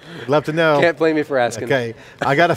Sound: laughs

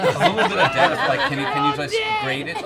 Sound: laughing

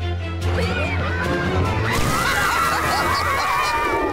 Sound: screaming; laughing

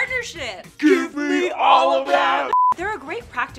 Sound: screen beeps

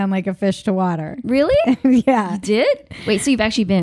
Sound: laughing

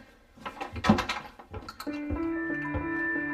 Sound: thud; clattering sound; piano music playing

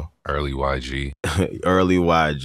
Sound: laughter

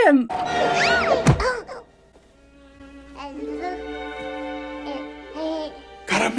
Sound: baby cooing; baby screaming

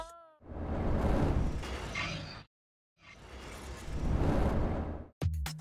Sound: mechanical sound

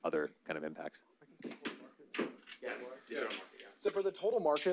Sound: presenters speaking faintly

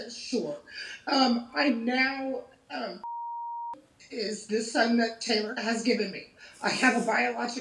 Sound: beeping

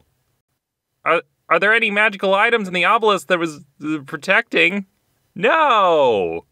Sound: stutter

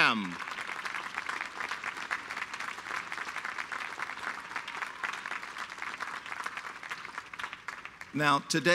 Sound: applause

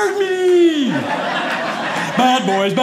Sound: audience laughing

